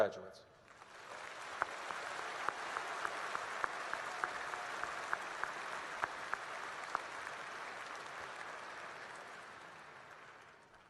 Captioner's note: applause